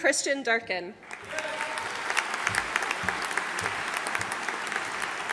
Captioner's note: audience applauding